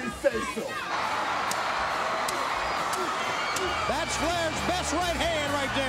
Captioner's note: applause